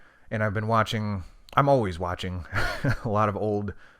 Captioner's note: laughs